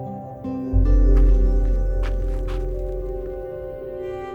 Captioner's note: footsteps crunch gravel